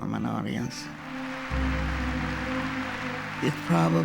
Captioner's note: audience applauding